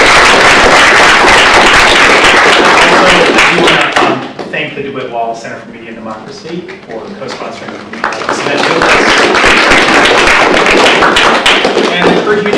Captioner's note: applause